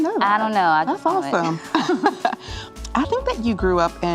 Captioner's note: both laugh